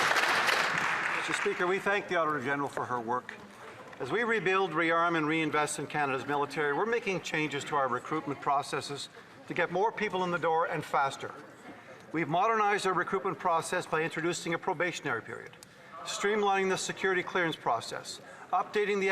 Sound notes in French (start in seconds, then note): 6.9 voix de l'interprète